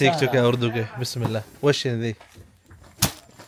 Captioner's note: Arabic